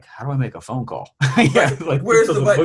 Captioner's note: laughs